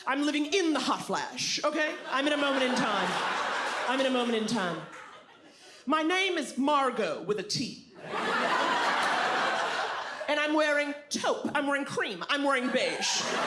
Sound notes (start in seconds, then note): 3.6 audience laughs; 8.0 audience laughs; 13.2 audience laughs, cheers, claps